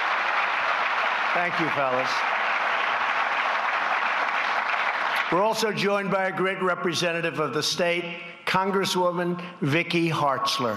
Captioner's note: applause